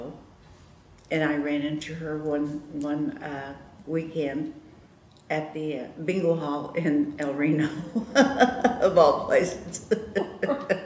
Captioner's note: laughter